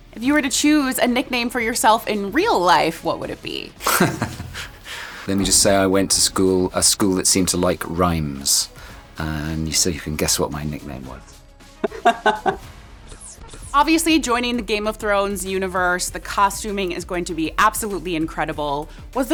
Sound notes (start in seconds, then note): 3.8 laughing; 11.8 laughing